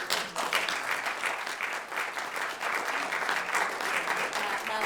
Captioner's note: applause